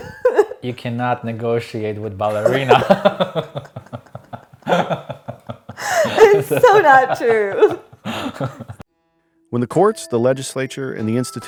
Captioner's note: both laugh